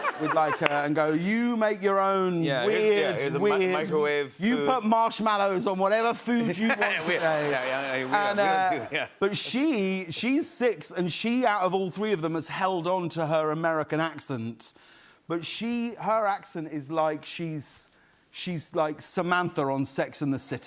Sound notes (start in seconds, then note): 6.4 laughter